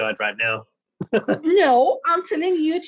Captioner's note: laughs